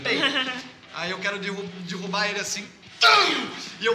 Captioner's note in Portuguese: grunhido